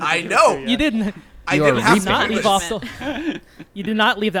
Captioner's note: group chattering